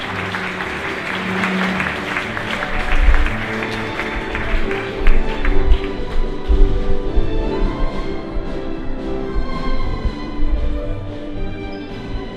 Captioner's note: applause